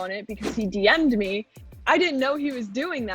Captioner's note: scene whooshing